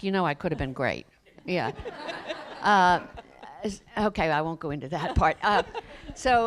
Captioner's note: laughter